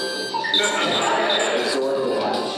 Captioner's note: laughter